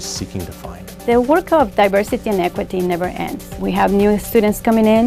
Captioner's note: voiceover